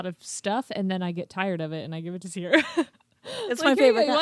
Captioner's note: laughs